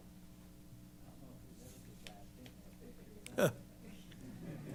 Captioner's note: background conversations